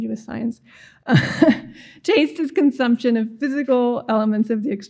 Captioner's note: laughs